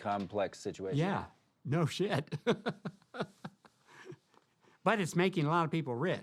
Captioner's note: laughing